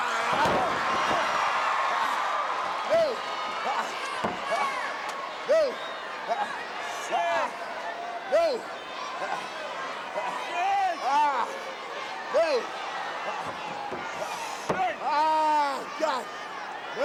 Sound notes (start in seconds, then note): 0.2 audience chattering; 7.2 wrestlers grunting